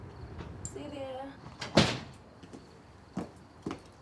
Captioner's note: door closes